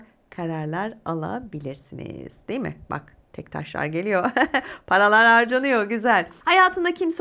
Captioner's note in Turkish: kahkaha